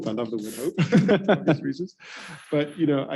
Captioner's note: chuckles